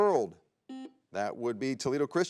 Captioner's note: buzzer beeps